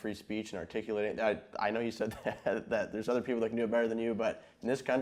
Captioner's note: chuckling